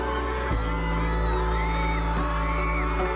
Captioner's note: people cheering